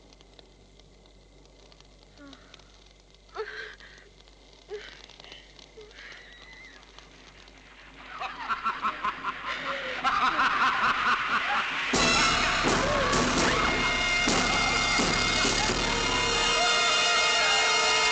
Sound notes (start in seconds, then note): 4.6 moaning; 8.1 man laughing; 11.9 intense suspense music